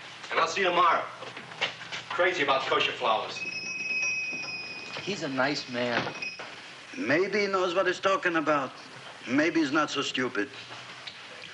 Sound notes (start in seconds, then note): 3.4 doorbell jingling